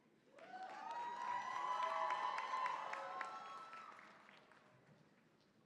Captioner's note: cheering, applause